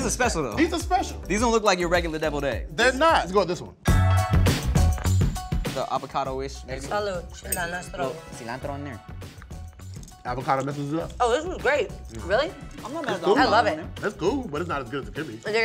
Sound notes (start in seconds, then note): 3.8 upbeat music; 6.7 speaks foreign language